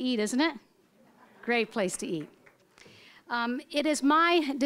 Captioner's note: audience laughing